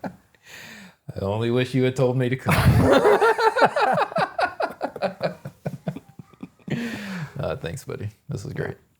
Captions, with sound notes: I only wish you had told me to come. (both laughing) Thanks buddy. This was great.